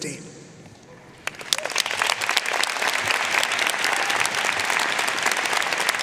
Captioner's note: audience applauding